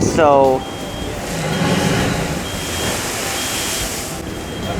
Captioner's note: water crashing